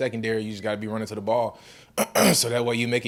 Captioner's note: clears throat